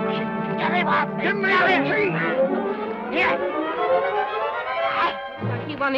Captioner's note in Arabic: تأوه; بن يصرخ بصوت غير واضح